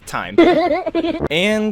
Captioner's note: dramatic sound